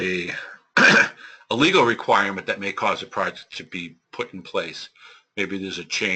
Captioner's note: cough